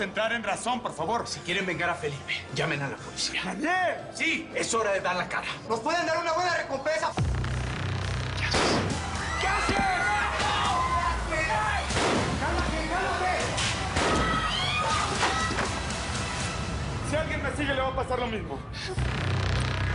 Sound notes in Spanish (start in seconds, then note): 8.4 Disparo; 11.9 Disparo; 13.9 Disparo; 14.2 Gritos